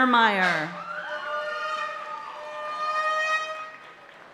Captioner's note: party horn blaring